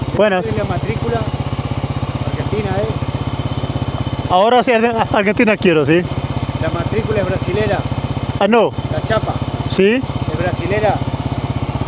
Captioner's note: speaking Spanish